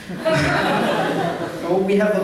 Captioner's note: laughter